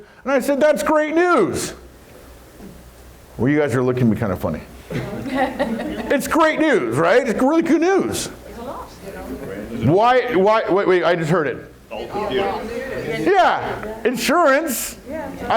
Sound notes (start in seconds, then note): 4.9 crowd laughs; 9.5 murmurs; 11.8 chattering